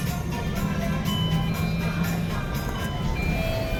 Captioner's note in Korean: 하차벨 소리